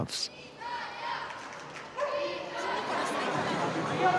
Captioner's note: crowd chanting